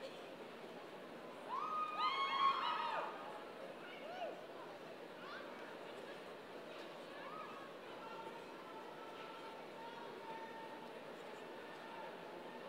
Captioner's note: cheers and applause